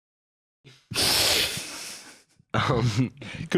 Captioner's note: both laugh